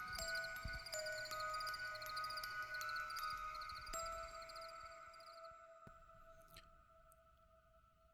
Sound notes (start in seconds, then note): 0.0 crickets chirping